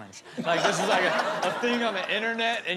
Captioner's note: audience laughs